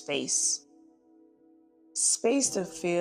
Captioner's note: pause